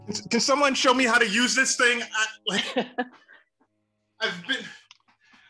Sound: laughter

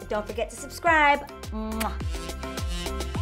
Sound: lips smacking

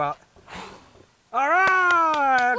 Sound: blows

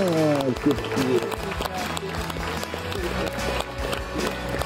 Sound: audience claps

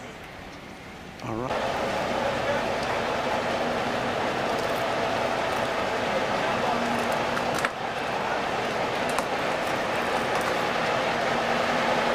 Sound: truck engine revving

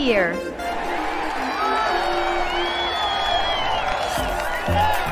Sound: cheering

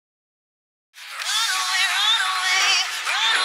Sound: car radio

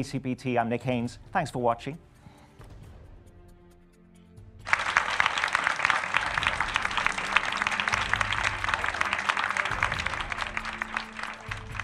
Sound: applause

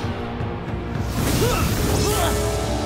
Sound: grunting

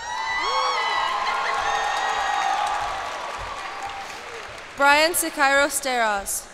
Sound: cheers and applause

